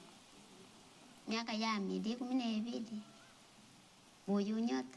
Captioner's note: non-english speech